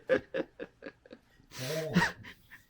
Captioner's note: laughing